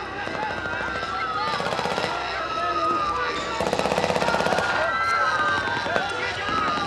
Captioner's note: gunshots booming; speaking in foreign language; people screaming; gunshots booming